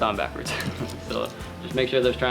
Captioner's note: laughs